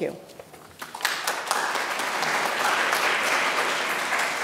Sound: applause

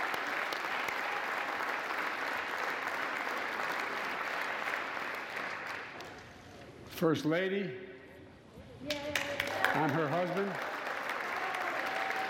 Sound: applause

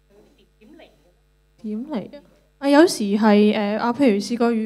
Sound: Cantonese

